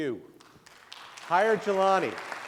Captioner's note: clapping